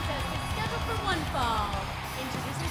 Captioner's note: bell ringing